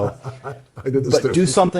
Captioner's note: laughing